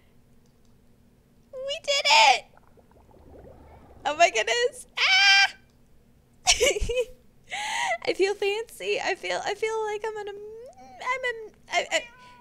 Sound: squeals; incoherent happy noises

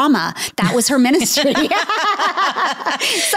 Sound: laughs

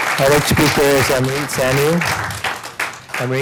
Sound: applause

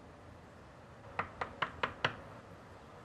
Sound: knocking

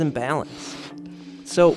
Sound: blowing

